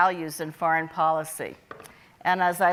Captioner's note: none